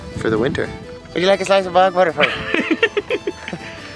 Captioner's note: laughs